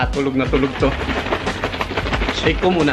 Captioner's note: intense shaking